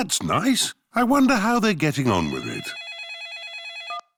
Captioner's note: phone rings